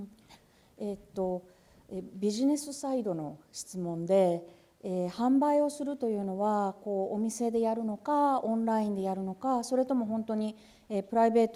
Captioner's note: speaking japanese